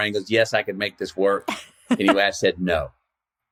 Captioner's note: laughs